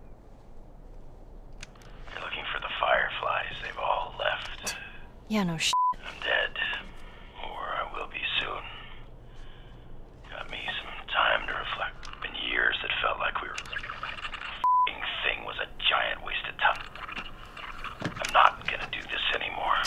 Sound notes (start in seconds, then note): 4.7 Ellie scoffs; 13.5 fast-forwarding noise; 16.8 fast-forwarding noise